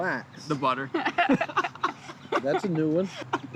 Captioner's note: laughter